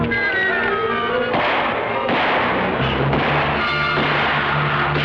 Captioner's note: guns firing